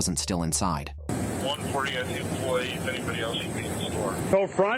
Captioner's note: radio chatter